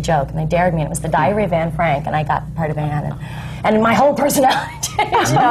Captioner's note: laughs